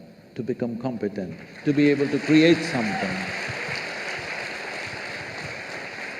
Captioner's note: applause